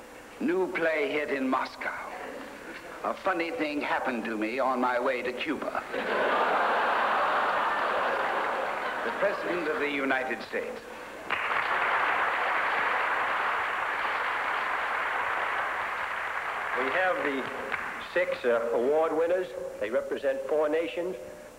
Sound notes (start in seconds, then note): 5.8 laughter; 11.2 applause